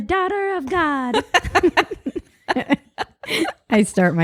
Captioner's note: both laugh